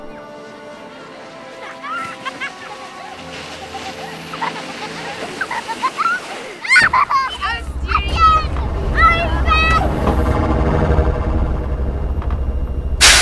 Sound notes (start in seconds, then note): 0.4 children laughing; 6.8 children shouting